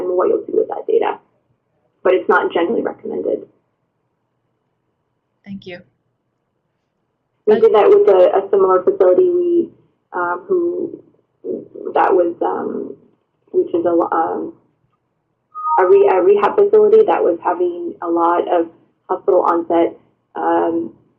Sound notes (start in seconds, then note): 5.7 voiceover